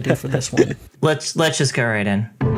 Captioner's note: laughs; instrumental only